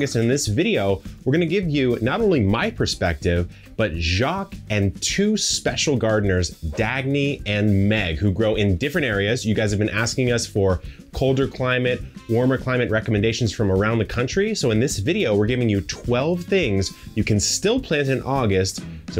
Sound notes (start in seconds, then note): 6.5 screen whooshes